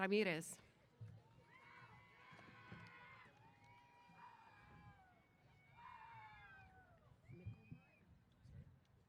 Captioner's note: cheers